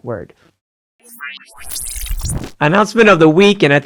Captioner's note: machine whirring